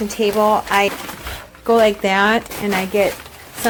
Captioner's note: scrunching peices